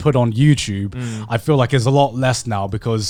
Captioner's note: affirmative murmuring